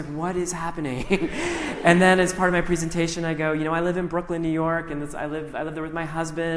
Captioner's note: laughter